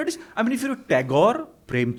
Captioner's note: hindi